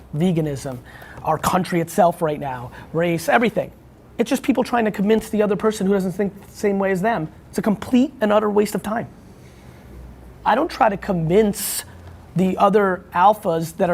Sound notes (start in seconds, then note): none